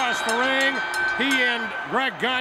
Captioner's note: bell rings